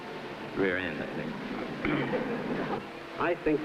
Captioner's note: faint laughter